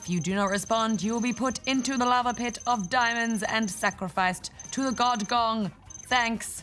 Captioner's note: makes silly noises